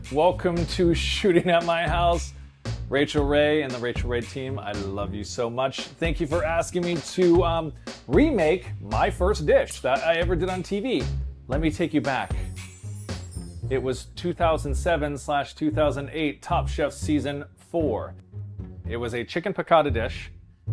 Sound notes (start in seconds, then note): 12.3 chimes tinkle